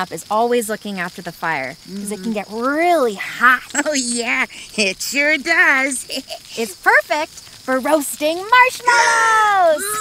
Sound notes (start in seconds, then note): 6.0 giggles; 9.7 giggles